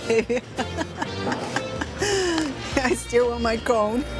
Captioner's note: laughs